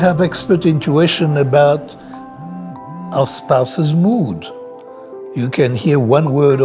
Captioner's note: phone vibrating